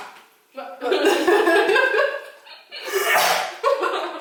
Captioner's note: Carlo sneezed